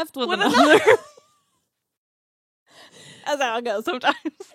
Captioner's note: laughs